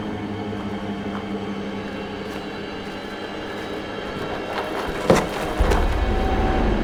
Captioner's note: tense suspenseful music; footsteps crushing snow